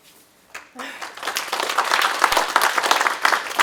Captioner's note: applause